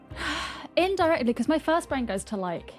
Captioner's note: sighs